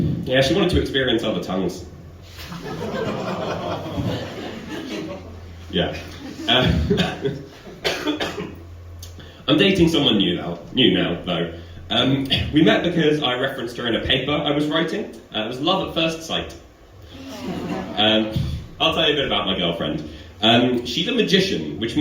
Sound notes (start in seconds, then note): 5.8 audience groan